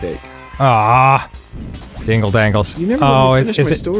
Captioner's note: groaning